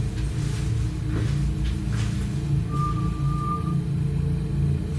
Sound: whistling

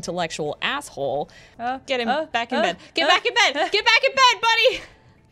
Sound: vocalizing

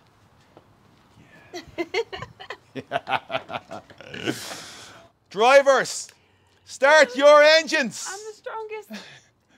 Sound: laugh

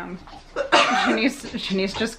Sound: coughing

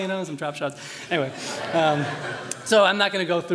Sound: laughter

